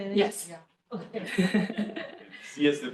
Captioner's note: laughs